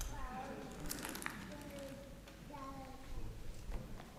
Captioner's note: toddler babbles